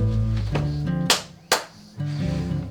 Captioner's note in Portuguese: tapinhas nas costas